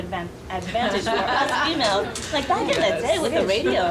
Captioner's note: audience laughing